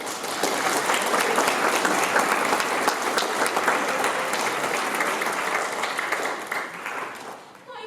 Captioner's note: applause